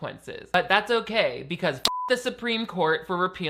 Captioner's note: beep